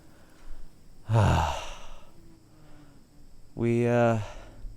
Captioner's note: sighing